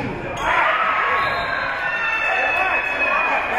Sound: spectators shouting encouragements; spectators cheering; whistle being blown; spectators cheering and applauding; spectators shouting encouragements

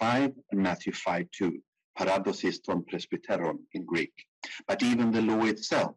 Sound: speaking in foreign language

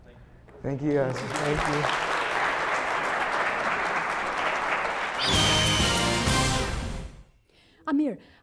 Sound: applause

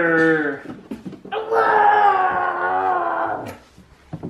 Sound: growls

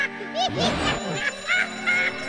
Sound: alarm rings

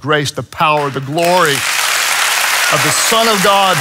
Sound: congregation applauds

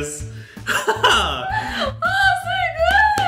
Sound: laughing

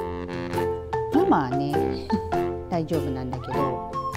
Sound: laughs

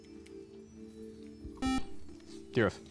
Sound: buzzer

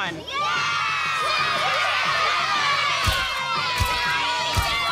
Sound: children cheer

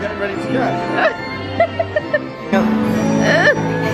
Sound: upbeat fairground music; laughing; upbeat fairground music

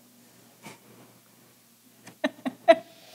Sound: laughs

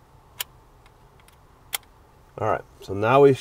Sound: metal clicking

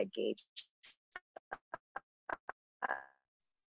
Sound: audio cuts out

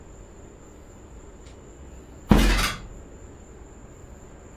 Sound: bat smashing

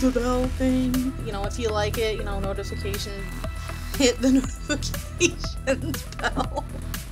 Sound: laughs

